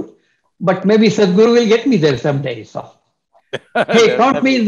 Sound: Sadhguru laughs

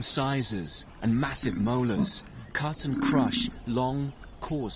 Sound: buffalo grunts

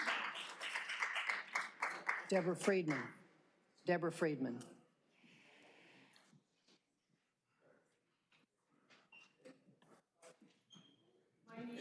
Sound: applause

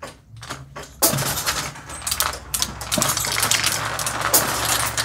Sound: MMX machine sounds; marbles rolling

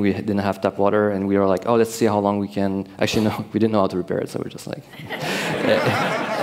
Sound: laughter

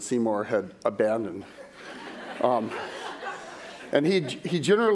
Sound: laughter

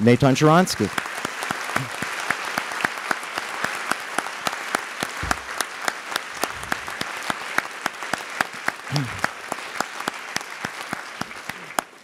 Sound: applause

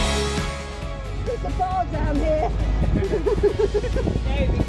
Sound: laughing

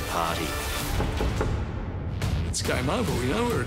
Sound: knocking loudly

